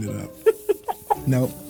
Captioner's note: laughs